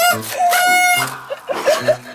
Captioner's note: hwek